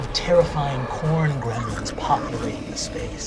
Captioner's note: snarling